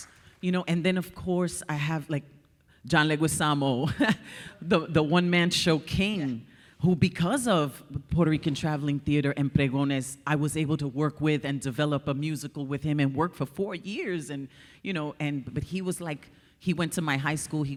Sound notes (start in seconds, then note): 4.1 chuckles